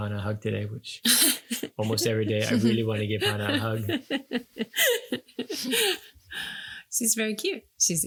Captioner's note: laughing